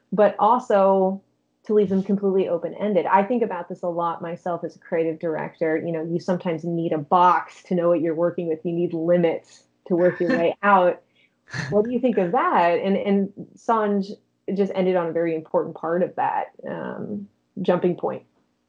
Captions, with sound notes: but also to leave them completely open-ended. I think about this a lot myself as a creative director, you know, you sometimes need a box to know what you're working with. If you need limits to work your way out. (chuckling) What do you think of that? And, and Sanj just ended on a very important part of that jumping point.